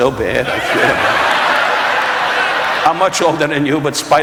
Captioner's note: audience laughing